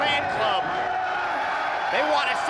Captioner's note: crowd cheers